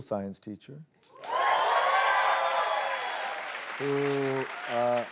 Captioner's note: cheers and applause